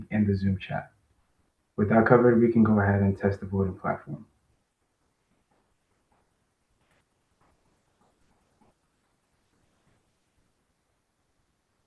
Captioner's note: pause